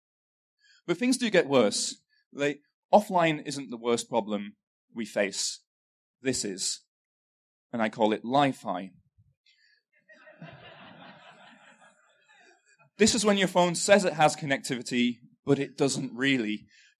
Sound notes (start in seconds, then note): 10.0 laughter